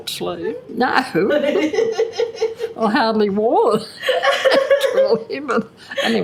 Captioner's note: laughs